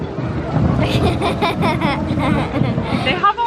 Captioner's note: giggling